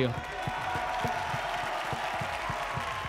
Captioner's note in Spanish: Aplausos